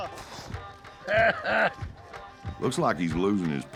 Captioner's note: laughs